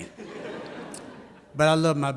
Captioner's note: audience laughs